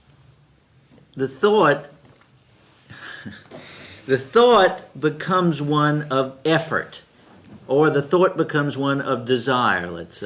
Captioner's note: laughs